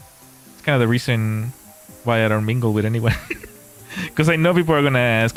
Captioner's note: laughter